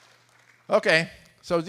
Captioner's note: applause